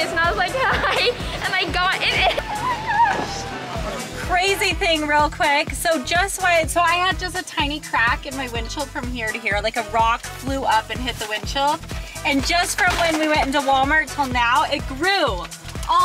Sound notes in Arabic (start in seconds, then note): 0.2 يضحك; 2.9 صوت عالي النبرة